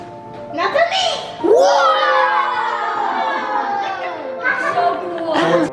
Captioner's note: kids wowing and cheering; upbeat piano music